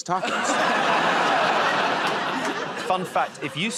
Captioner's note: laughter